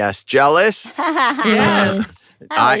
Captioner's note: laughs